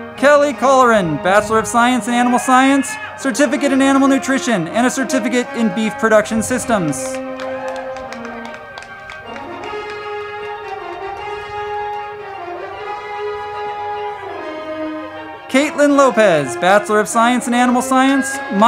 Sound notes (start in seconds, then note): 6.6 crowd clapping; 7.7 band music